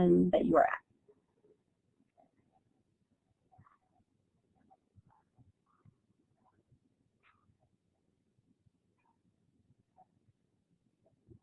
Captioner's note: silence